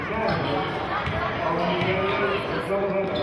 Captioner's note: yelling